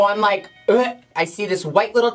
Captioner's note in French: imite régurgitation